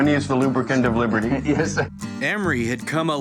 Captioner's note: chuckling